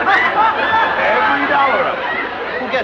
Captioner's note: laughter